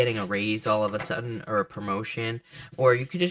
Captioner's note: cards shuffling; cards thud softly